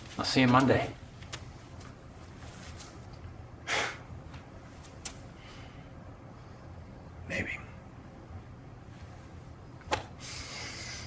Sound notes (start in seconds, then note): 3.6 Joseph scoffs